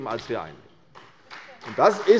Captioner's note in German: Beifall bei der CDU und dem BÜNDNIS 90/DIE GRÜNEN